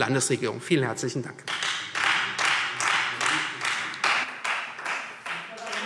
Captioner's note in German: Beifall Freie Demokraten